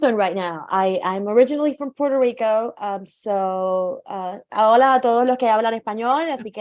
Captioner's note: speaking in Spanish